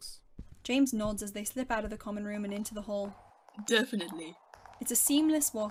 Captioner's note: footsteps